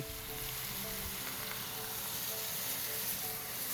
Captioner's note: sizzling